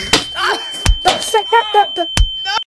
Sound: even even more punches and slaps

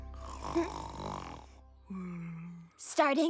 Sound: snoring

